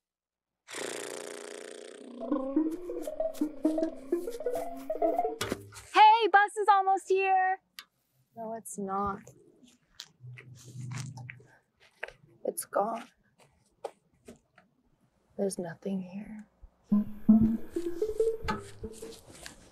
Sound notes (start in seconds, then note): 0.2 confetti popper pops; 0.7 lips rumble; 4.9 comical music